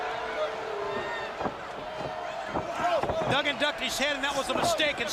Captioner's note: crowd chatter